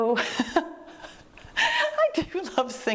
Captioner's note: laughs